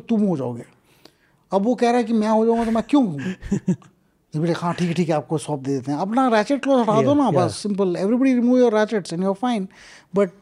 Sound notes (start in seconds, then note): 2.8 speaks in Hindi; 7.1 speaks in Hindi